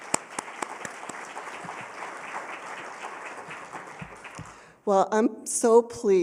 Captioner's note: applause